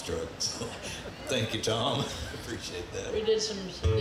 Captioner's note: chuckles